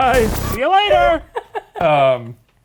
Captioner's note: laugh